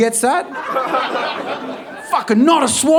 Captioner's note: audience laughing